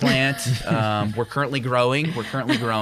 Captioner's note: chuckle